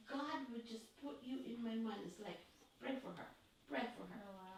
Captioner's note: muttering